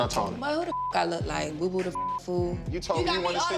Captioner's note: beep